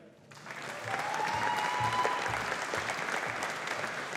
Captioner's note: audience applauding